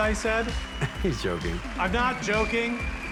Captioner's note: chuckles